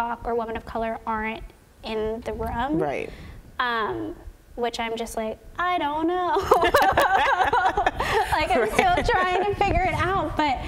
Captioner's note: laughter